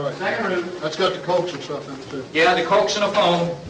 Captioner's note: men murmuring